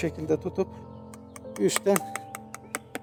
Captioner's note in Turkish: kalemi takarken üstte vurduğumuzda çıkan tık tık tık ses